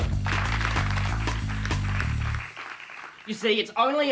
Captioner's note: audience applauding